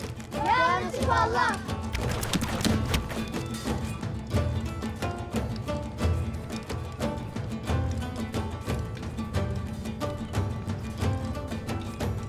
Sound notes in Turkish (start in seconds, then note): 0.1 Hep bir ağızdan; 1.9 Ok fırlatma sesi